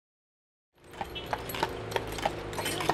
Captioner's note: clopping horse feet